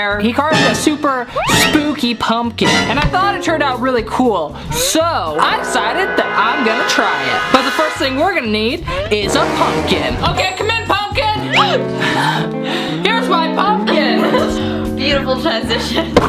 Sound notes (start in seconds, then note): 2.8 dramatic suspenseful music; 11.6 laughs; 13.2 upbeat piano music; 13.9 laughs